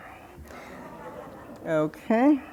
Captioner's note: crowd laughing